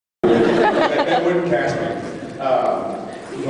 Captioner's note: laughs